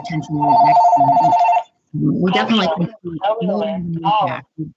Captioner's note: phone rings